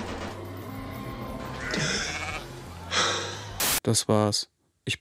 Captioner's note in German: Verzweifeltes Seufzen, Rauschen